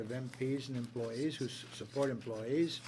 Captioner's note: speaking French